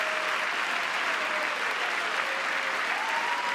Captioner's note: cheering; applause